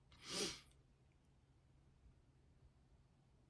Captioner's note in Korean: 콧방귀